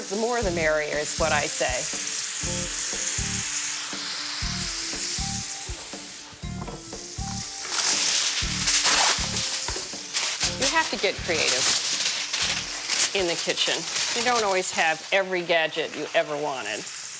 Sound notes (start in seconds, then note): 8.1 foil crinkling